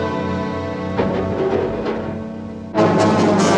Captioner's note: clattering